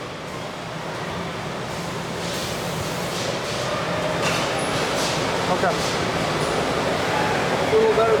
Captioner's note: factory noises